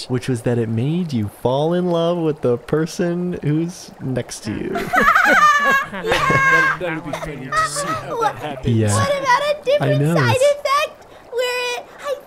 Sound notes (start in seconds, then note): 4.7 laughter